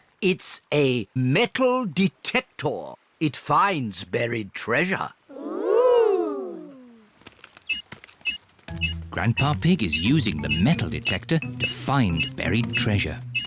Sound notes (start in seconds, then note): 7.3 beeps slowly